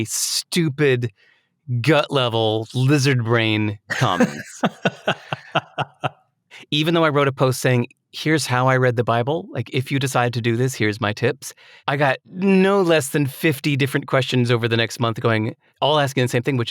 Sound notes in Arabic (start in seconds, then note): 3.9 يضحك